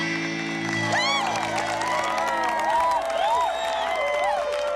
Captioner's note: cheering and applause